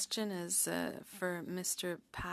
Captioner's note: speaking french